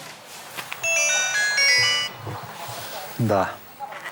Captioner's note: phone ringing